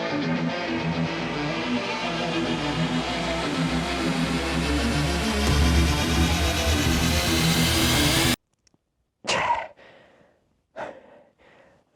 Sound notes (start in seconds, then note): 8.3 dead silence; 9.2 exasperated grunt